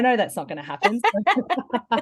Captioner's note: laughs